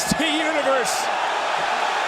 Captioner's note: crowd cheers